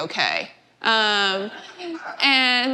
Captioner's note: laughter